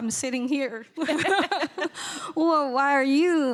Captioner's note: laughing